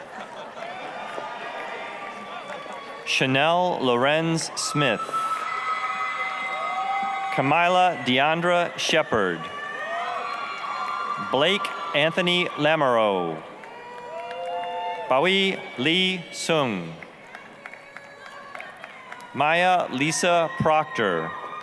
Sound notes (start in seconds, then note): 0.1 applause, cheering; 5.3 applause, cheering; 9.8 applause, cheering; 13.7 applause, cheering; 17.4 applause, cheering